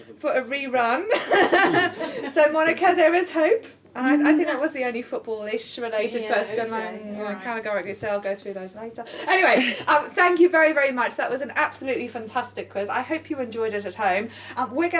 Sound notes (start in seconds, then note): 1.2 laughing